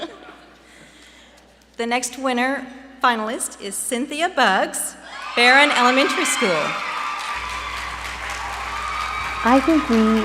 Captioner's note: applause